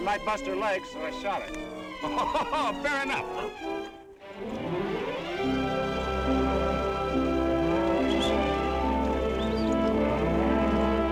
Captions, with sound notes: - She looked like she might bust her leg, so I shot her. - (laughs) Fair enough! (peaceful orchestral music) (cows mooing) (men whistling)